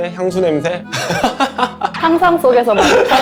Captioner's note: haha